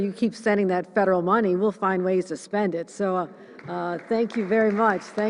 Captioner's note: applause